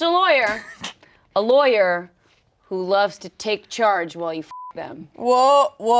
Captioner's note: beep